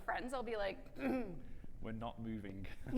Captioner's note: clears throat